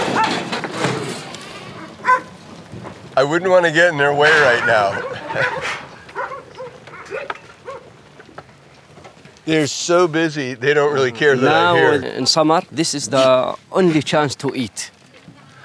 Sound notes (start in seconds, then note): 4.4 dogs barking